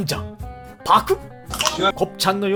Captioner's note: gulp